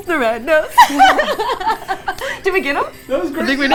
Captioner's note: laughter